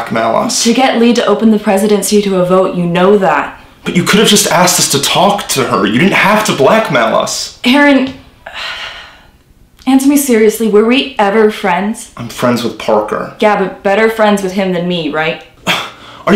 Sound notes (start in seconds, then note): 8.4 sighs